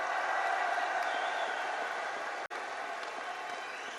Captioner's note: applause